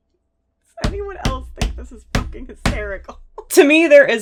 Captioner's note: slamming hands on desk